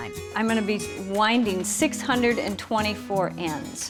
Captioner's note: none